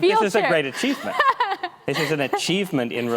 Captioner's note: laughs